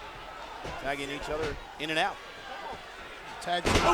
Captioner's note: blow thudding